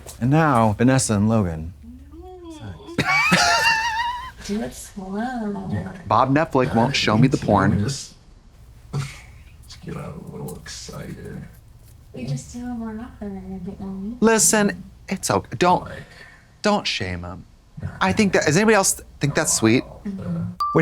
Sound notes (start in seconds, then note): 3.2 blonde Women wheeze